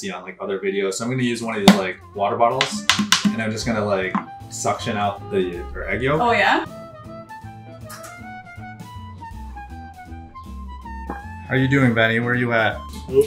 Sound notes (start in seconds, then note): 2.6 water bottle pops; 8.5 egg cracks